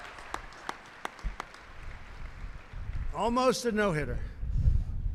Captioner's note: applause